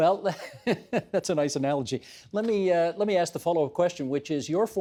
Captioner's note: laughing